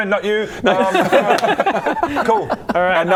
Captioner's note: "friendly" laughter